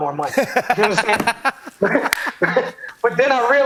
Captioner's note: laughs